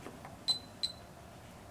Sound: beeps

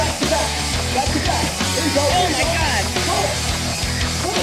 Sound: intense rock music; on-lookers yelling

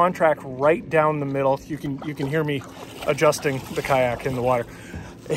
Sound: water splooshes

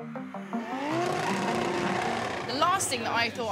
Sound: car machine revs

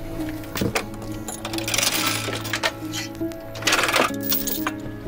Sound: chain rattling

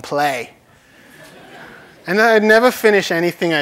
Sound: laughter

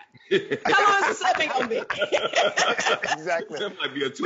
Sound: laughs drowns out the speaker

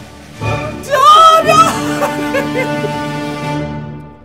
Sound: laughs

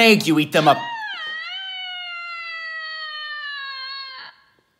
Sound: Lady Macbeth screaming

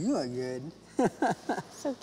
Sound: chuckling

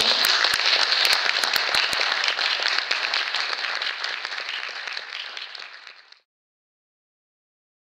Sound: clapping

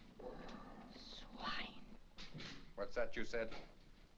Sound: whispers

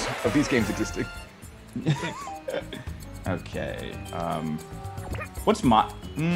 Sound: laugh

